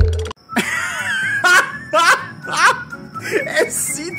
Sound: laugh

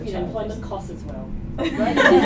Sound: laughter

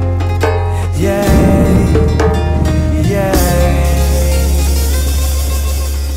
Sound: thunder Rolls in the background

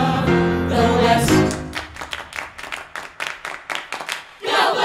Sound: clapping

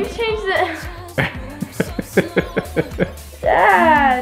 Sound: laughs

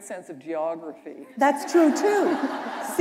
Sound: laughter

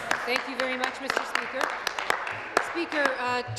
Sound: applause

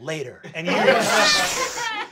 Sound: laughter; air hissing

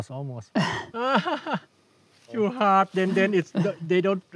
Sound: laughs

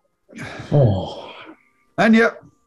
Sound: sighs

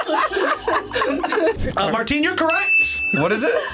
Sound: buzzer rings; both laugh; bell rings

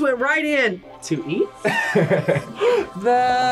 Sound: laughs; gasps

